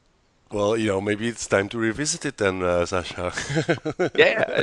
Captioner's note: laughs